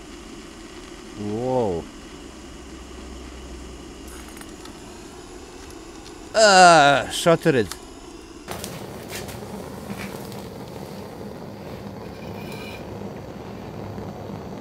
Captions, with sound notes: Wow. Gaah, shattered. [Noise of gas burners]